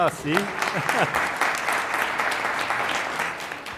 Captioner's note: applause